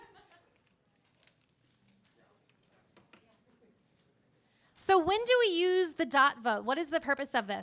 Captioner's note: laughter